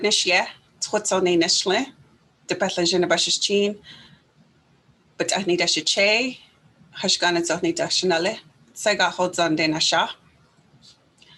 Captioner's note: speaking in Native Language